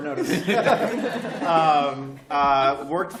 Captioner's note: laughter